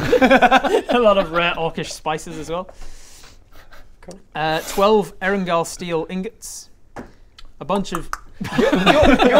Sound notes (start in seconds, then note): 8.0 nom nom nom; 8.4 laughs